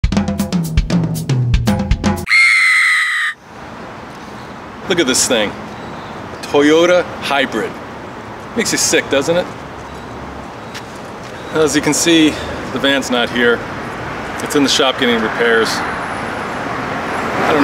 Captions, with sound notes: (drums) (scream) - Look at this thing. Toyota Hybrid. Makes ya sick doesn't it? Well as you can see the van's not here. It's in the shop getting repairs.